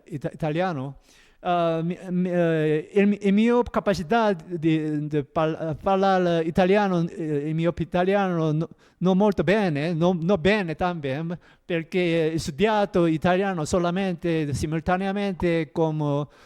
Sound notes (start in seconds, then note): 3.1 in ITALIAN